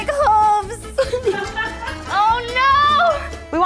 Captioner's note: laughing